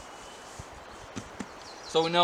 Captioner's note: pat pat